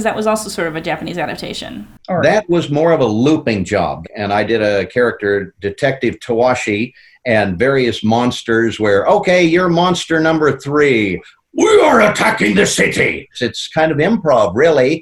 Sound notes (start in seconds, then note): 10.9 in deep booming voice